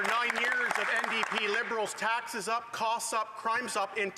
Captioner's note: some Applause